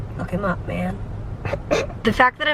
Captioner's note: snorts